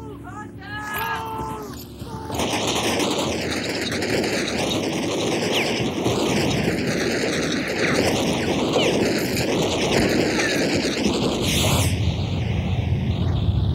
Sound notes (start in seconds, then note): 0.0 soldiers shouting; 2.7 gunfire rattling